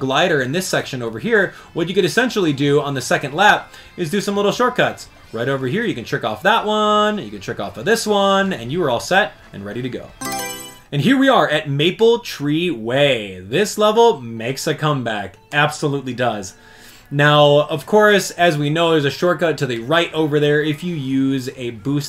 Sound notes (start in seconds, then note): 10.2 Mario Selection Sound